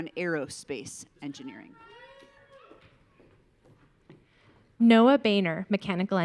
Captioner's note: audience cheering